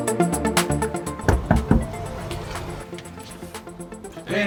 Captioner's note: knocking